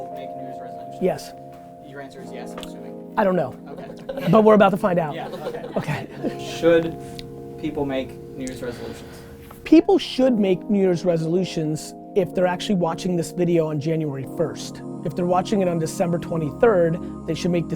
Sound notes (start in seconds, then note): 3.8 group laughter